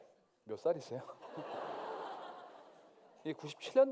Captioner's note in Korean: 웃음